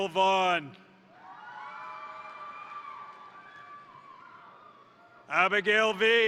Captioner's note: crowd cheering; crowd applauding